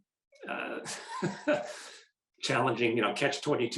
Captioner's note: laughing